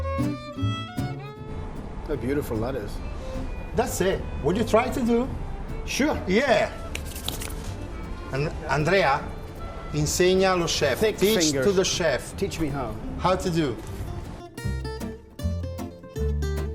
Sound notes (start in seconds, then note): 9.4 speaking Italian; 14.8 playful violin music